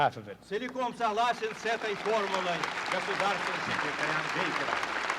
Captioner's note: audience claps